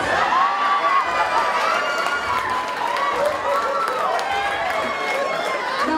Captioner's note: laughing and cheering